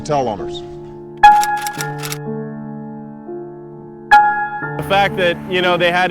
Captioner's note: typewriter keys clicking